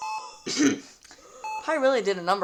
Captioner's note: clears throat